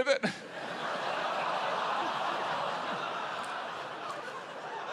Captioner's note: laughter